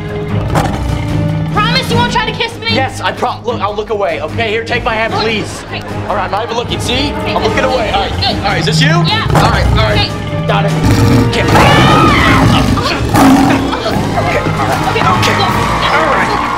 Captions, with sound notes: [roaring] - Promise you won't try to kiss me? - Yes, I prom-- Look, I'll look away, OK? Here, take my hand, please! Alright, I'm not even looking, see? I'm looking away, alright, alright, is this you? - Yeah, OK. - Alright, alright. Got it, here! [screaming] [roaring] - Here, OK, alright. - OK, go!